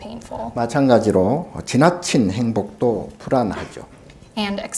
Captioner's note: speaking Korean